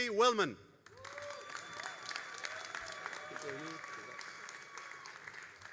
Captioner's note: all applauding and cheering